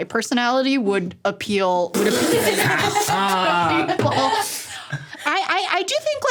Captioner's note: everyone laughing